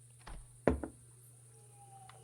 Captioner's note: mug Thud